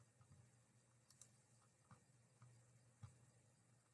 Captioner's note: mouse clickings